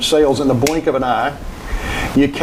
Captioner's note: fingers snapping